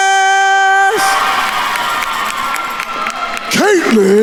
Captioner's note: attendees cheering and applauding